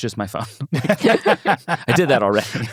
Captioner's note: everyone laughing